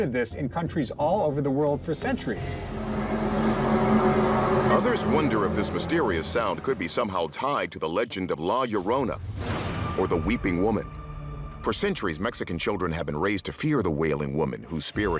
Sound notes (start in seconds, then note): 2.4 groaning sound